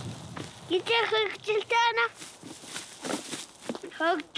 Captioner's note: foreign spoken audio